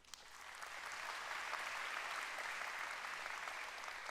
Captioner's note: applause